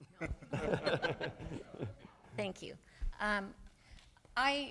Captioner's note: laughter